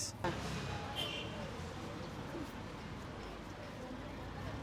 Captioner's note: traffic beeping